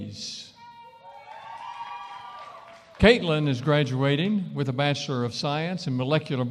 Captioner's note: cheering & applause